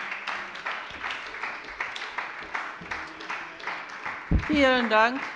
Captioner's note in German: Beifall bei der SPD